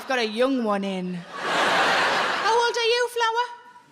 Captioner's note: audience laughing